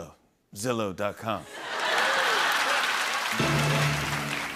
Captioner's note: laughter and applause